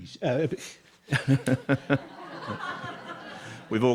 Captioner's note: laughing